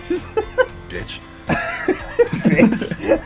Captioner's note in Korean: 웃음